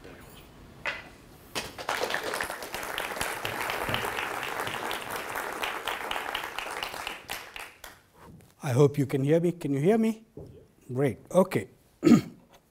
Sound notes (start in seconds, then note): 1.6 audience applause